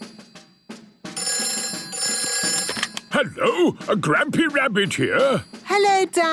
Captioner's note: phone ringing